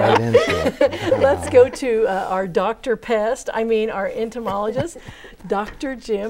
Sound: laughing

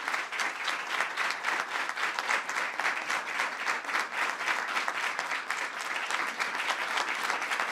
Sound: applause

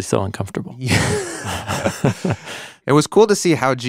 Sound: both laughing

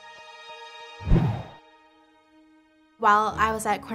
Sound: whooshing

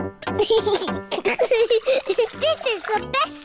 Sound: giggles

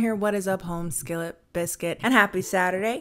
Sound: none

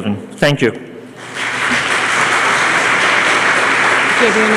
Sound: applause

